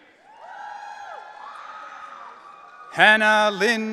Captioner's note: audience cheering